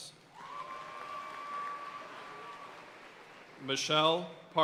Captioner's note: audience cheering and applauding